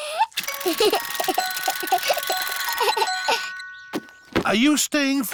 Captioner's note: alexander giggles